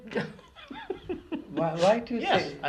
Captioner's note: laughs